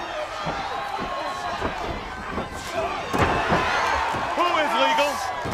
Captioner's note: crowd chatter